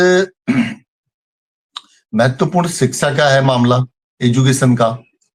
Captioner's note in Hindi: गला साफ़ करने की आवाज़